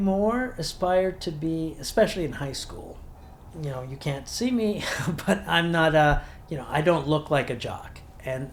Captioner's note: chuckles